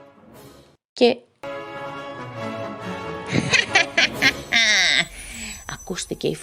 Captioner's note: evil lough